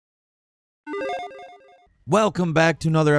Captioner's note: electronic beeping